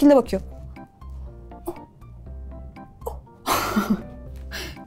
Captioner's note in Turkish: Gülüşmeler